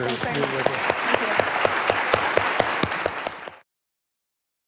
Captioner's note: audience applauding